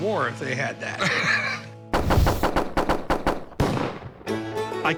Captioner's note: gunshot sounds